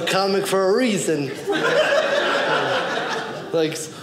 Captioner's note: audience laughing